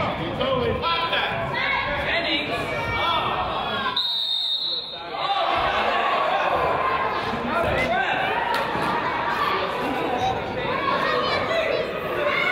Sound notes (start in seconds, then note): 3.9 whistle blows; 5.2 crowd groans; 7.0 crowd yells